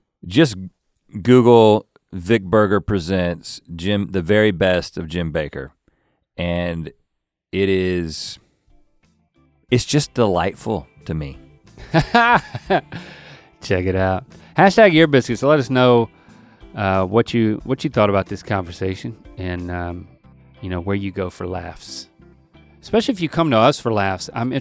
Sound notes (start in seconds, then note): 11.8 Link laughing; 22.1 upbeat music